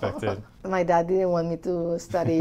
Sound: laughs

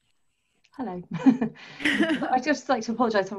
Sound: laughter

